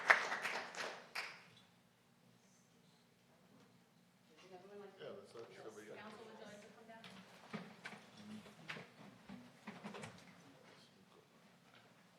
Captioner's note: applause